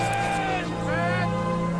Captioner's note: soldier yelling